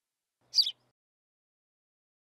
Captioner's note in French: chant d’oiseau